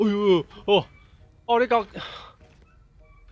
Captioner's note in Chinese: 被嚇到 語無倫次